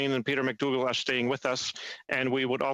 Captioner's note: speaking French